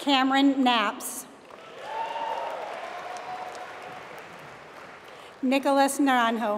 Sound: applause

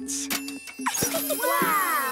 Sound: laughing

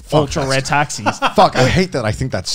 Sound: laughing

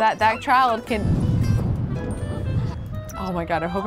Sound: thunder rumbling

